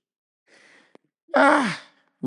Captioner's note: sighs